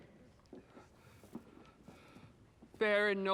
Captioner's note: breathes nervously